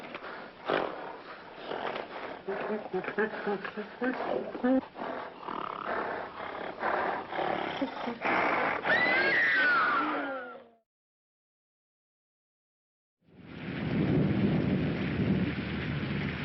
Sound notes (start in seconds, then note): 0.0 grunting; 0.0 whimpering; 4.6 screams; 4.6 snorting